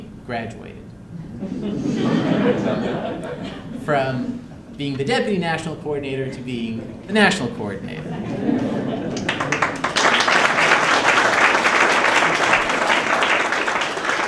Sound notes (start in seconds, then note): 1.2 laughter; 8.0 laughter and applause